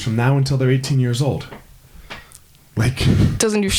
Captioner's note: chuckles